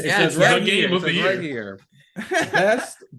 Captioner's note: laughing